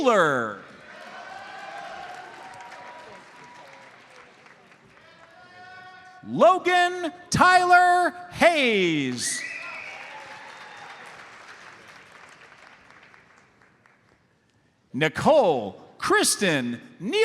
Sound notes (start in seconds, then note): 0.6 audience cheers and applauds; 9.3 audience member whistles; 9.4 audience applauds